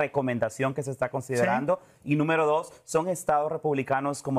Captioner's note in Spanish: HABLA EN INGLéS